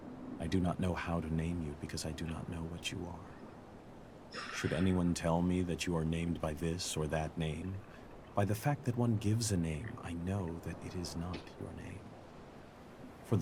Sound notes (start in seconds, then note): 4.3 sighs